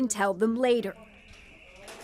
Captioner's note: speaking alternate language